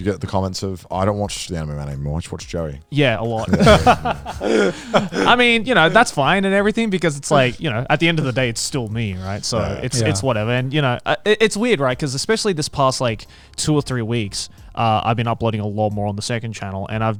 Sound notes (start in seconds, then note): 3.2 group laughs